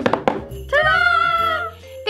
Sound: both drum on table

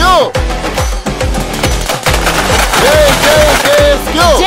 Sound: crackers bursting

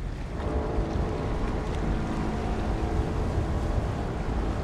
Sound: horn blowing low

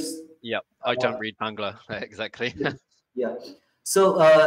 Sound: chuckles

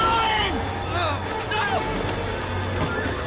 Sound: screaming

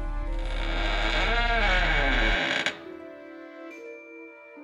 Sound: door creaks open

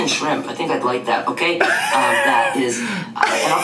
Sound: laughs

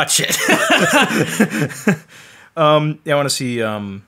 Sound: both laugh

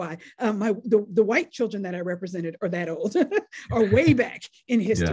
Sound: laughs

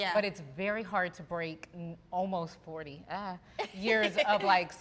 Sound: laugh

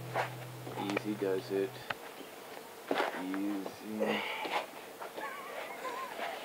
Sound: laughs

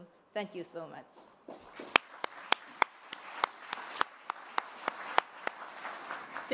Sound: applause

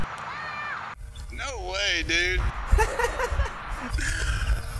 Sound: laughs

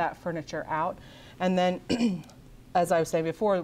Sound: clears throat

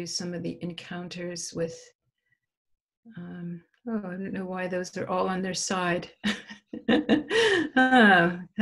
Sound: laugh

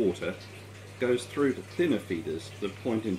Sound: water trickling

